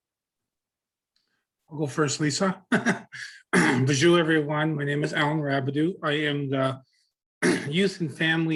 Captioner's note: clears throat